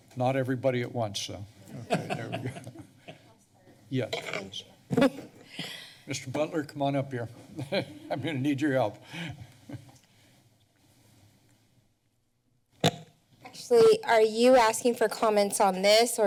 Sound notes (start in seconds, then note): 1.8 laughter; 7.7 laughs